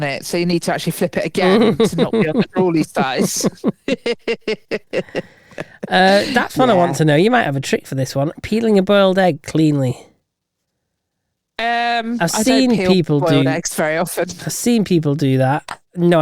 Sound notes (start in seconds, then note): 3.6 both laughing